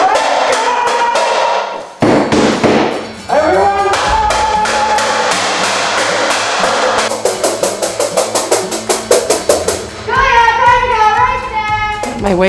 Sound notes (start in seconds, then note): 0.1 pans clanging; 7.1 pans clanging; 10.0 yells